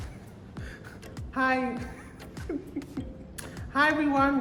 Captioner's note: laughing